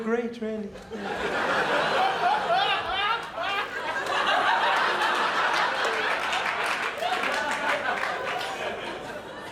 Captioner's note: crowd laughs